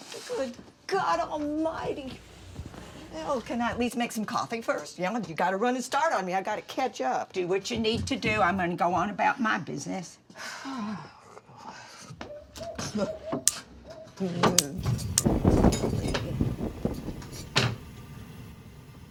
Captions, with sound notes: - Good God almighty. Well, can I at least make some coffee first? You got a running start on me. I got to catch up. - Do what you need to do. I'm gonna go on about my business. (Dory exhales) (dial clicking) (flame roaring)